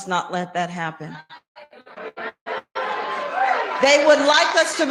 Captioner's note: crowd cheering